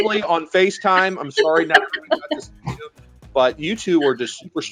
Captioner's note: speaker cutting out